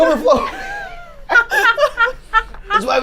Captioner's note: group laughs